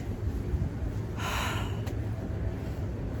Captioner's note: sighs deeply